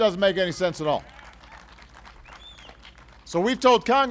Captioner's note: applause